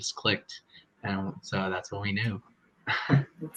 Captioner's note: chuckles